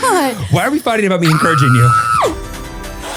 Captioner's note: screams; upbeat music